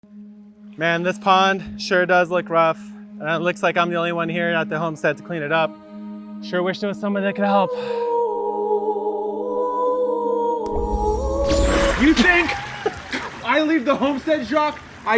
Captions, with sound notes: - Man this pond sure does look rough. And it looks like I'm the only one here at the homestead to clean it up. Sure wish there was somebody that could help. (ethereal music playing) (chime rings) - You think I leave the homestead Jacques?